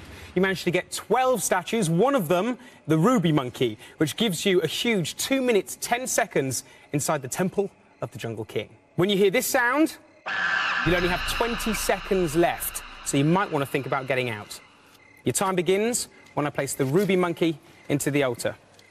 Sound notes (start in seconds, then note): 10.2 monkey screech